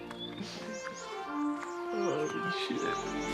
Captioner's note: Mark laughing; birds chirping; gentle music